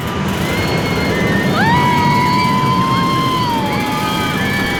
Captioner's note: riders screaming; screaming